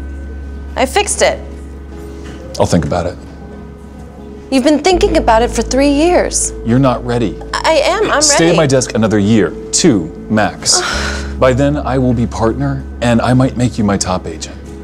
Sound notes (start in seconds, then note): 10.6 sighs